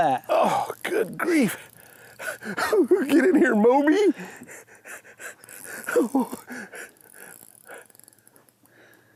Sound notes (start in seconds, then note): 4.2 panting